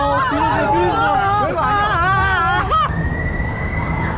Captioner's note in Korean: 옆 관람차에서 소리를 엄청 지르고 있는 중